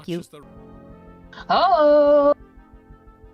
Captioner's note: gasps